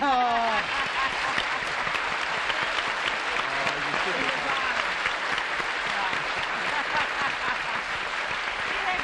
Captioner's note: applause